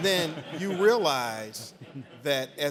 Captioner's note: audience laughing